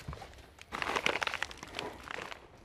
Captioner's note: rustling